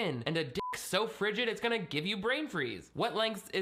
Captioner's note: beep